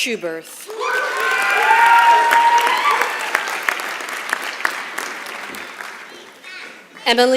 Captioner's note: applause